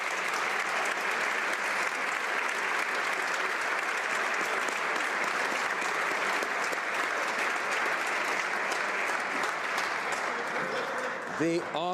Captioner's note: applause